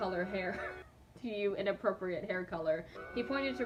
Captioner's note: laughs